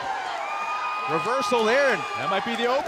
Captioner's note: cheers & applause